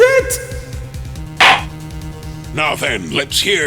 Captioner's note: gavel slams!